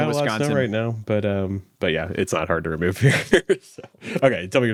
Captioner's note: laughs